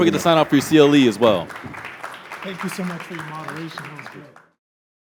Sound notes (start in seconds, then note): 1.6 audience applauds